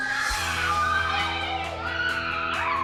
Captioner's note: squealing